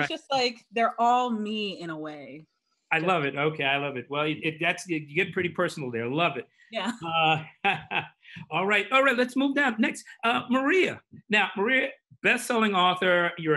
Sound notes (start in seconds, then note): 6.8 laughs